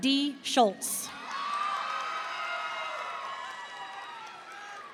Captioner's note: audience cheering